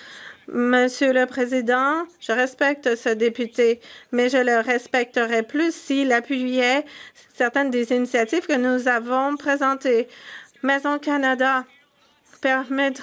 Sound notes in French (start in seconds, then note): 5.4 voix de l'interprète